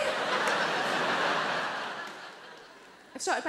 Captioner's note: audience laughs